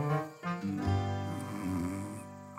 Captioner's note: snoring